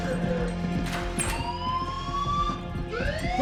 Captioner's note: alarm blaring